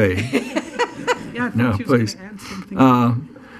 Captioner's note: laughing